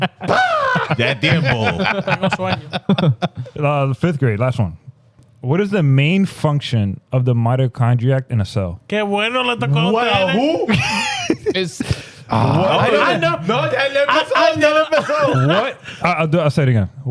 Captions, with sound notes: That damn bull. (Laughing) Fifth grade, last one. What is the main function of the mitochondria in a cell? Can't wait to let the call out that. Who? (Laughing) I know. No, I never saw that in a cell. I'll do it outside again.